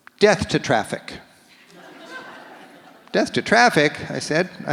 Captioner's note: audience laughs